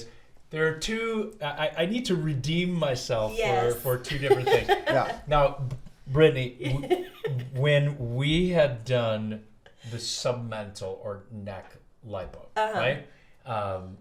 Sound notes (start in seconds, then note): 3.3 laughs